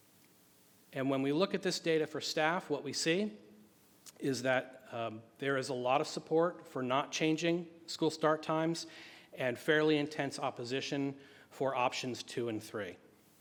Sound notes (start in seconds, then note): none